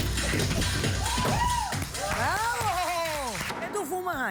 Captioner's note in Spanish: Exclamaciones